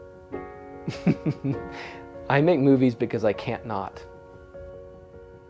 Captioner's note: laughs